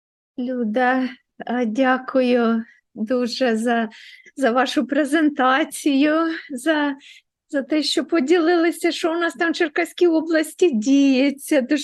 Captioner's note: foreign Language